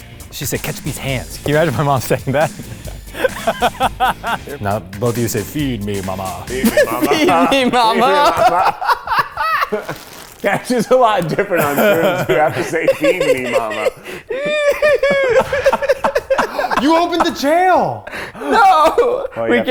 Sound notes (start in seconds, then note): 4.0 laughs; 7.3 laughs; 9.3 laughing; 14.3 laughing; 14.3 laughs; 18.0 gasps